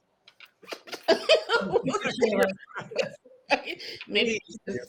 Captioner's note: participants laugh